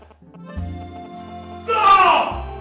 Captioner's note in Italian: interferenza e suoneria